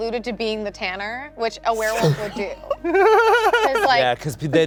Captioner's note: laughing